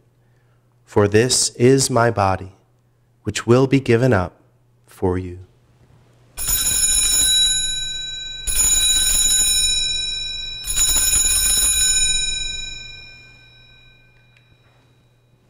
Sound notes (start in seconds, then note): 6.4 bells ringing